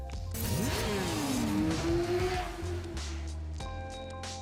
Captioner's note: motorcycle engine revving; gentle music